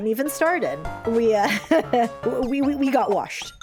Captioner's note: chuckle